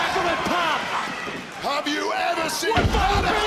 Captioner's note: screams